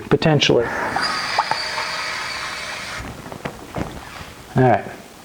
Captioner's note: water running